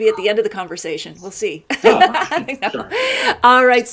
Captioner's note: laughs